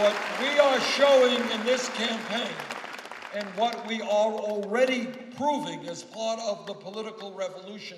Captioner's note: applause